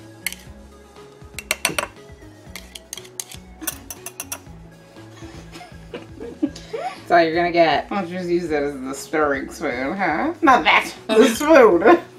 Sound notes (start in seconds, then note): 5.2 chuckles; 5.2 lightly laughs